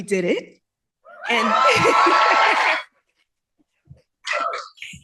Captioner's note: cheering